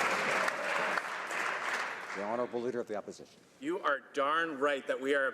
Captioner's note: some Applause